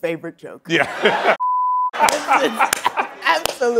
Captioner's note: laughs